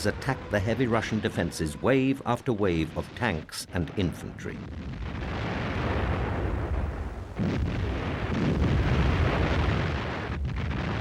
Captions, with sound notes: attacked the heavy Russian defenses wave after wave of tanks and infantry. (gunfire) (explosions)